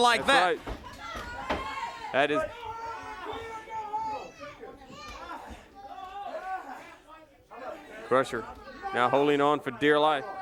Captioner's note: audience shouting